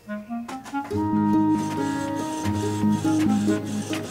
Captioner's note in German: Drucker summt